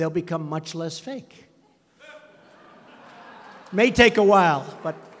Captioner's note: laughter